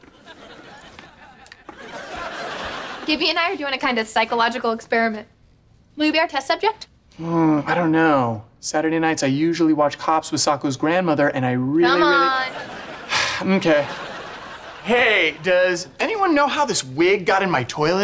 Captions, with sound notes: Gibby and I are doing a kind of psychological experiment. Will you be our test subject? Mm, I don't know. Saturday nights I usually watch Cops with Socko's grandmother - and I really, really-- - Come on. [sighing] Mm-kay. Hey, does anyone know how this wig got in my toilet?